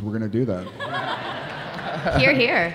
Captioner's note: audience laughing